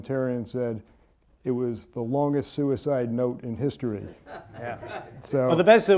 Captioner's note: laughter